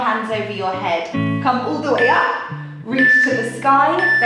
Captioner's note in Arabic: يُصدر المؤقت صوت تنبيه